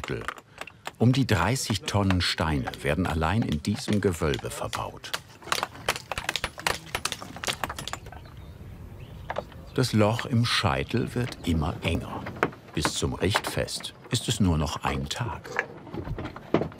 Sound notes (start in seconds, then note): 5.1 knocking, hammering